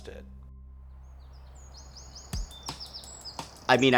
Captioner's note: birds chirping